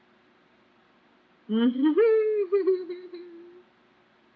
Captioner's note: laughs